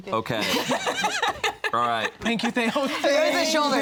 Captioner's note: laughs